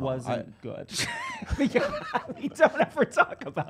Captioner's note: laughter